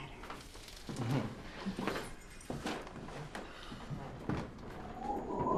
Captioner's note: James chuckles